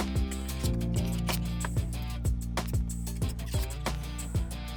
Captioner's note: gentle music; tool scraping; gentle music